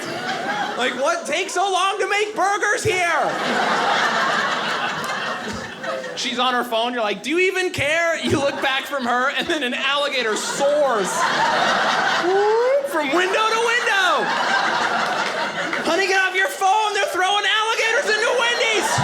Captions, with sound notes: like, "What takes so long "to make burgers here?" (audience laughing) She's on her phone, you're like, "Do you even care?" You look back from her and then an aligator soars, whoop, from window to window! (audience laughing) "Honey, get off your phone, "they're throwing alligators "into Wendy's!